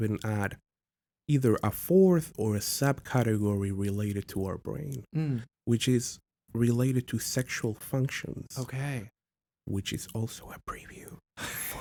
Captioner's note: whispering